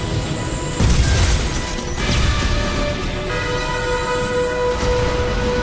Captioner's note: explosion